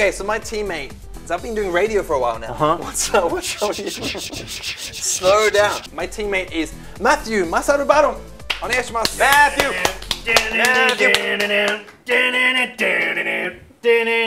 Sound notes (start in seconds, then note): 2.8 laughs; 8.6 speaks foreign language; 9.0 clapping; 10.3 humming